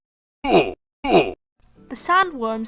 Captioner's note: Minecraft noises